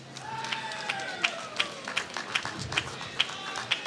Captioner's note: applause